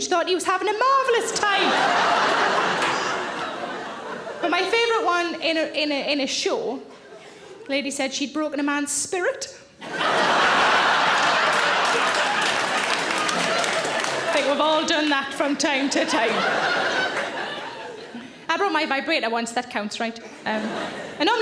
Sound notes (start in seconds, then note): 1.2 audience laughing; 9.8 audience laughing; 10.0 audience applauds